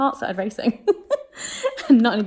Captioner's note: laughing